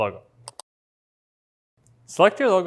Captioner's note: mouse clicks